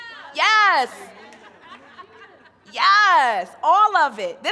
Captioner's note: crowd laughing